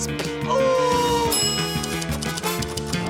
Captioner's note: bell dings